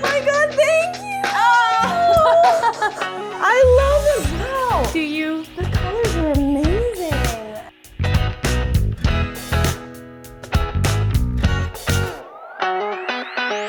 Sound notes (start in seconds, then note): 0.6 exclaim; 7.6 light upbeat music